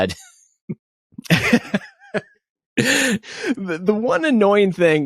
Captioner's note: both laugh